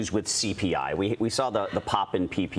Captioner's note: laughter